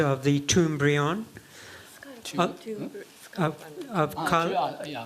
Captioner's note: speaking japanese